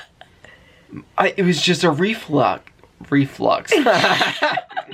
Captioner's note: they laugh